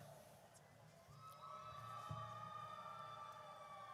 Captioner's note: audience cheers